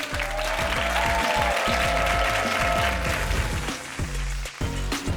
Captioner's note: cheering continues; upbeat hip hop music